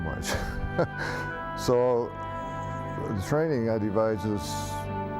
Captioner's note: chuckling